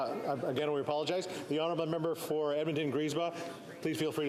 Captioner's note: speaking French